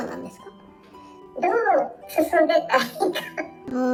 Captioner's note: laughs